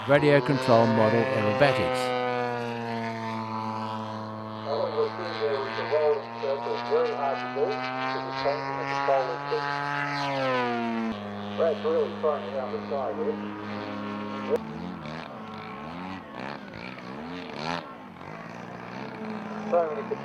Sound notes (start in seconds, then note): 2.5 model aircraft sounds